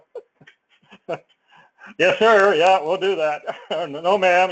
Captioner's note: laugh